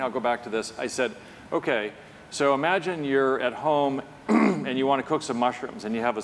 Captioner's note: cough